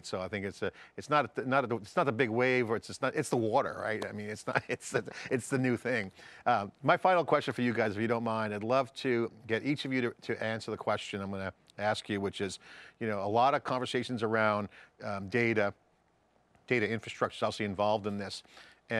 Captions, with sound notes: So I think it's not a big wave, it's the water, right? I mean, (chuckles) it's the new thing. My final question for you guys, if you don't mind, I'd love to get each of you to answer the question I'm going to ask you, which is, a lot of conversations around data. Data infrastructure's obviously involved in this.